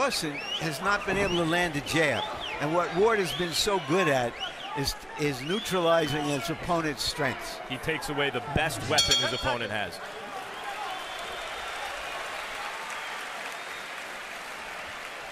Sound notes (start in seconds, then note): 8.9 bell dinging; 9.5 cheers and applause